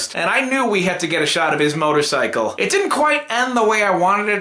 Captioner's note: none